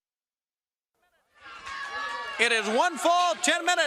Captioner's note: crowd cheering